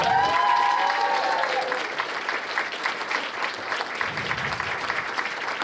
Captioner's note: cheers and applause